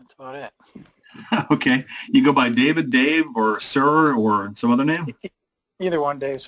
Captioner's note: laugh